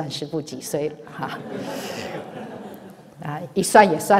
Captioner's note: laughs